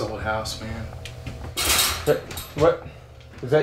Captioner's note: loud clanging